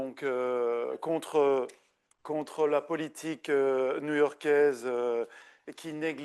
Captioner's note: continues speaking French